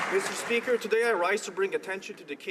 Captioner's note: applause